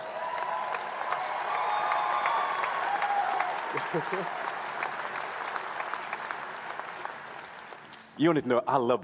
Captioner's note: applause